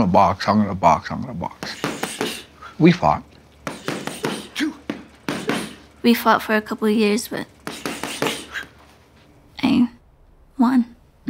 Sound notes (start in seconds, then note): 3.7 both grunting